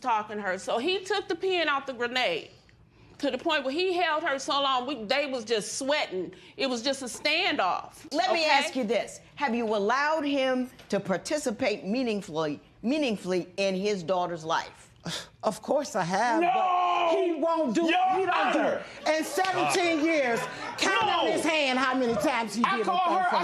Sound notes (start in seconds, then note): 15.9 scoffs